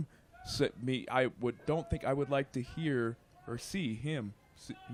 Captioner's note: stuttering